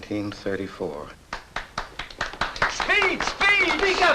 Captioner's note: applause